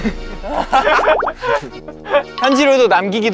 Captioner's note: laughing hard